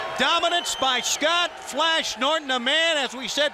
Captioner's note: crowd cheering